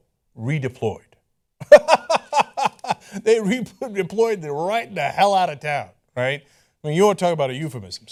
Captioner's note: laughter